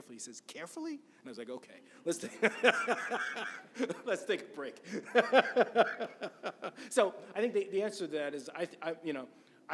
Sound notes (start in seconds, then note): 2.2 laughs; 4.9 continues laughing